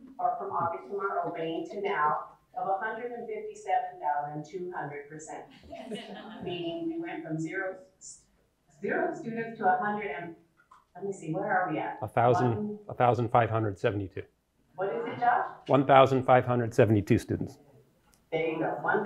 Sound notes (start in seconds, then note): 5.5 laughter